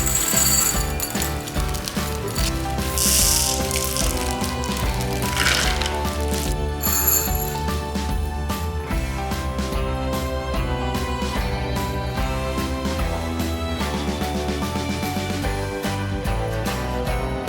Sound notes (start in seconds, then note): 0.0 candy clanking; 3.5 plastic rustling; 5.7 candy clanking; 5.7 upbeat festive music